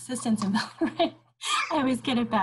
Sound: chuckles

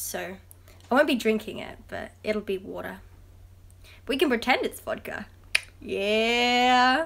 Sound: tongue click

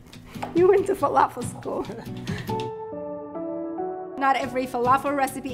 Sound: both laughing

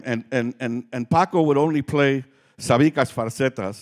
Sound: speaking Spanish

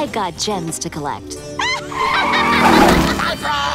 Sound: evil laughter

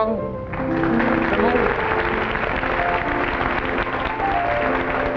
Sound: audience applauding

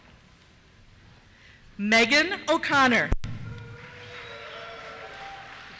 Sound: cheers

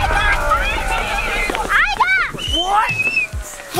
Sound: screams

